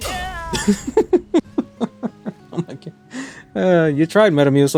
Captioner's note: not so gentle laughing